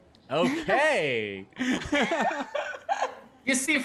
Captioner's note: laughs